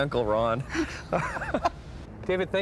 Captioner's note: laughing